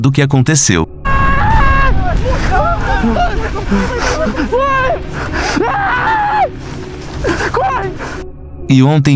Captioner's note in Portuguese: Gritos